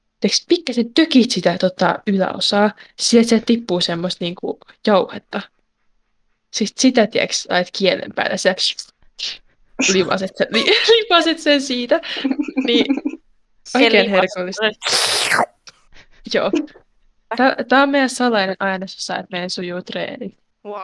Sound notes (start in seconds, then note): 14.8 aggressive slurping